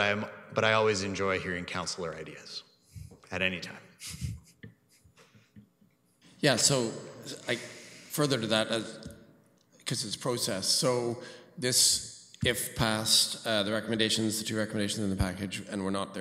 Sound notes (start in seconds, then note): 4.0 chuckles